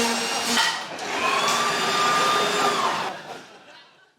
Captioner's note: trimmer whirrs loudly; power tools roar